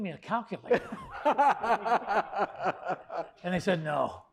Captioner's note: laugh